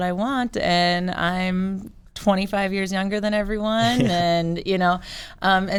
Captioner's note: laughs